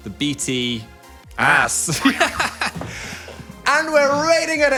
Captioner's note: both laugh